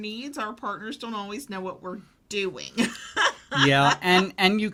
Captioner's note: laughing